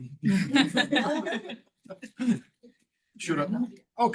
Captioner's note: all laughing